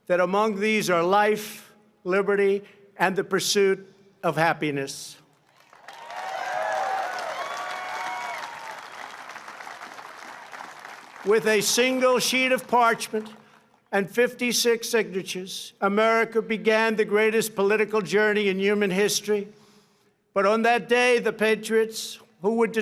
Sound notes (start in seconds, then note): 5.3 applause